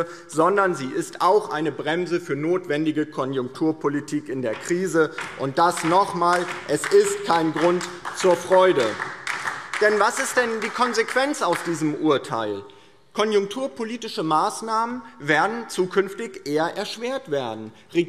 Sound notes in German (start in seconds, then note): 8.8 Beifall DIE LINKE